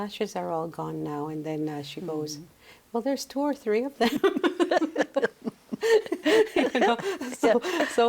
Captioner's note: laughs